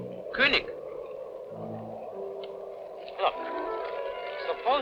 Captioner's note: speaking in a foreign language